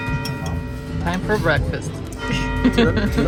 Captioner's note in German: Kirchenglocken läuten